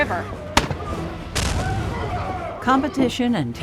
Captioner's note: gunfire and yelling